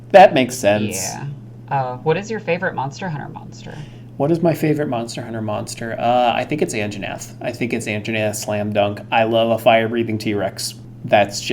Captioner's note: laughing